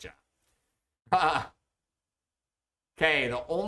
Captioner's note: chuckles